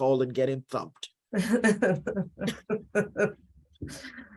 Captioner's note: laughter